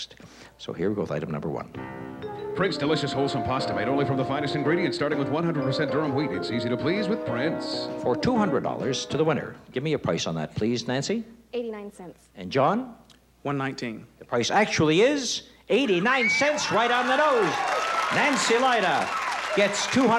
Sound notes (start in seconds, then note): 15.8 cheering and applause